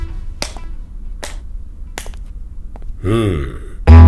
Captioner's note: Slapping on hand